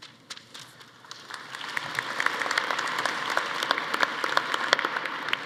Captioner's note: audience applauding